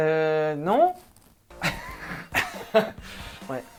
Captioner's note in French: rires